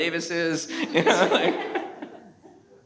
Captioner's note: panel laughs